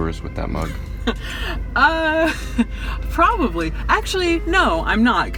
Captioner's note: laughs